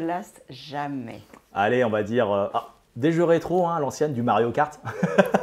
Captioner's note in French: Rires